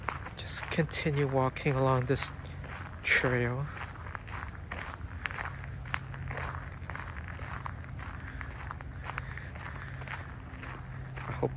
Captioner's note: walking on gravel